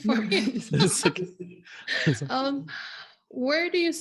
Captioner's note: all laughing